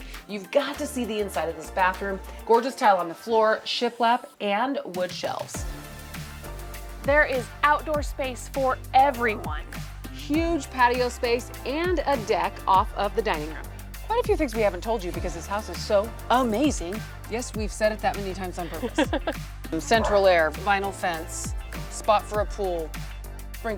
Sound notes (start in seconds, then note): 19.7 laughing